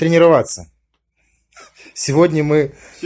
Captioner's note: laughs